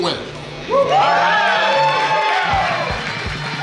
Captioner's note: cheering